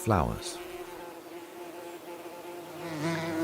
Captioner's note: buzzing